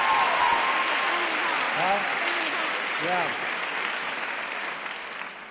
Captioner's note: applause